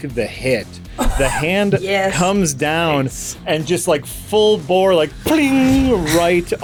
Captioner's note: pling